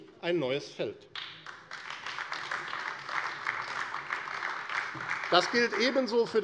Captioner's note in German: Beifall AfD